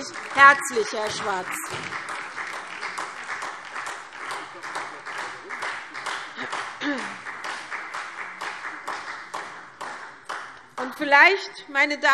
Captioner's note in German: Beifall SPD